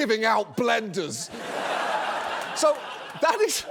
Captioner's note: audience laughs